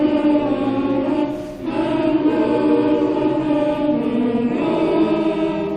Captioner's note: humming alma mater